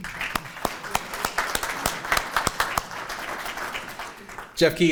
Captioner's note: audience applauding